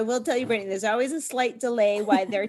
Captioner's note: laughs